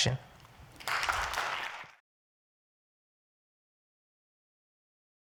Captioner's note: audience applauds